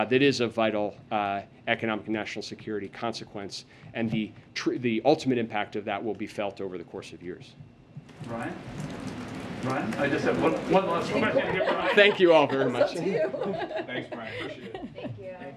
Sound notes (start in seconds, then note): 13.8 laughs